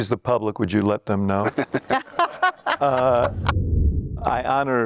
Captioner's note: laughter